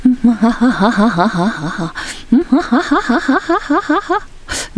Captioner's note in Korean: 음산한 웃음소리